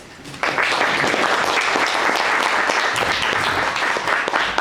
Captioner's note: audience applauds